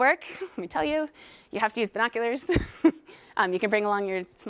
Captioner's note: laugh